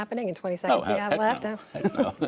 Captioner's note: laughter